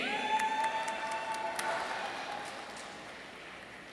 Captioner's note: audience cheering